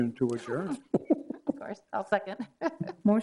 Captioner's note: laughs